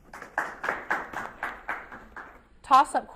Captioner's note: audience applauds